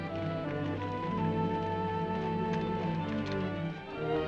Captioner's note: horse hooves clopping; gentle upbeat music